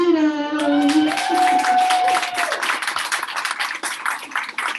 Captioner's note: audience applauding